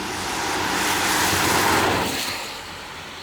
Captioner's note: car noise